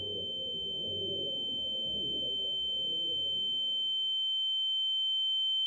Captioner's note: high-pitched ringing noise